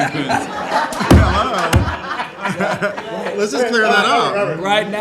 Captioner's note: laughing